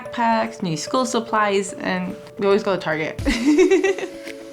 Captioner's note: laughing